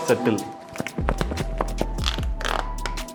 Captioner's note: paper rustling noise